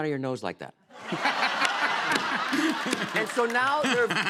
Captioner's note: laughter